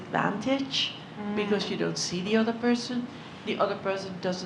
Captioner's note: none